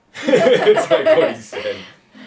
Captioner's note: laughter